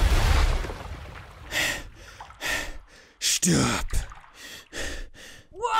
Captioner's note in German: schweres Atmen